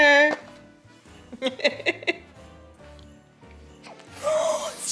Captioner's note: mom laughing